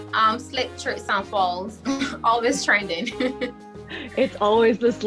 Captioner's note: laughs